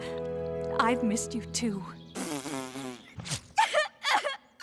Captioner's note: blows nose; sobbing